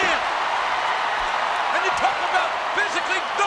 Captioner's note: crowd cheering